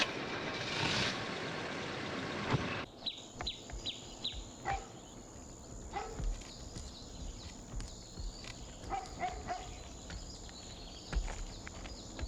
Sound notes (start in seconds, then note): 0.2 car starting; 4.1 birds chirping, dog barking